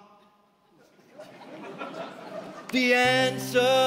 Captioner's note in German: Lachen